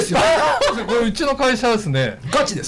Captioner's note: laughs